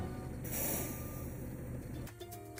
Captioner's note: bus breaks releasing air; upbeat banjo music